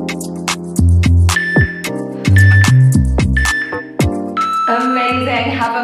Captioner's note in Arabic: المؤقت يصدر صوتا